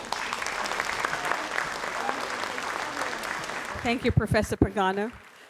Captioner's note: audience applauds